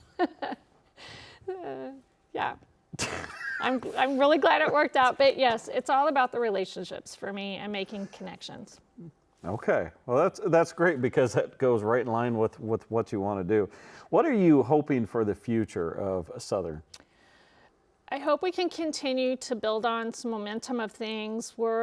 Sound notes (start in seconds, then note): 0.6 laughs